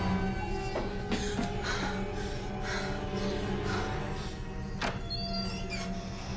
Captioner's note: Lyne breathes heavily; door opens